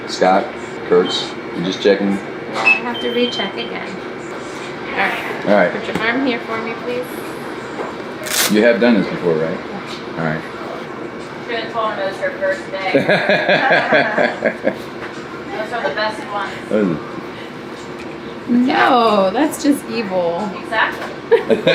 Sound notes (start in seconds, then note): 12.9 laughing